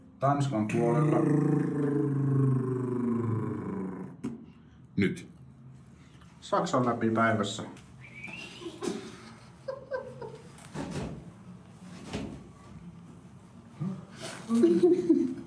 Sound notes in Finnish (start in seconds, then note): 1.1 huristeluääniä; 8.0 viheltää